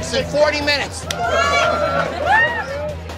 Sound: cheers

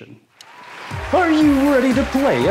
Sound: applause

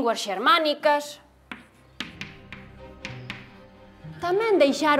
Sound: sound: chalk on blackboard

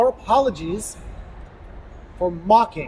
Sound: none

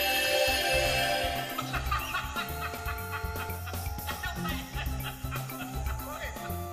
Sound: laughs

